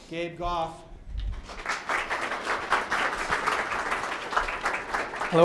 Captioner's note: audience applauds